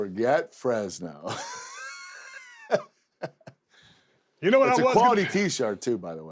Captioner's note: laugh